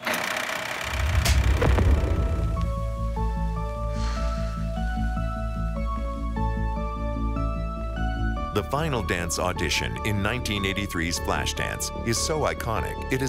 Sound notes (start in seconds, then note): 0.0 film reel clicking; 3.6 exhale